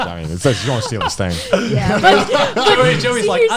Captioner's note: laughs